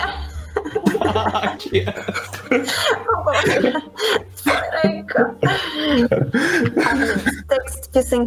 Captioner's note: laughter